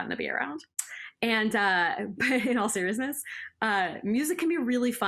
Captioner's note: laughter